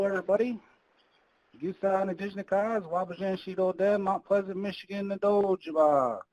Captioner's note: speaking in foreign language